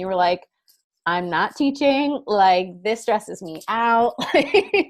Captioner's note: laughter